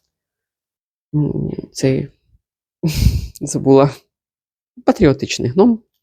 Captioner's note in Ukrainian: сопіння